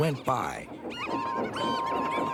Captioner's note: toot toot